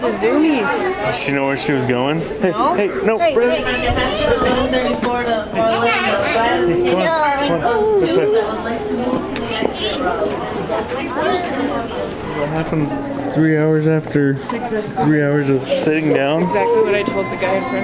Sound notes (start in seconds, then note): 4.3 airport noise; 5.7 vocalizing